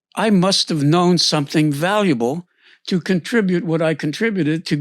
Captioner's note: none